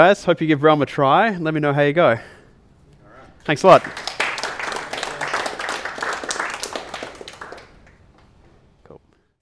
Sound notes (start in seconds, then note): 3.5 audience applauds